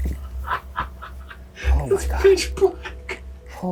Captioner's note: laughing